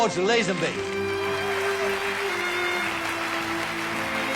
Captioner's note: applause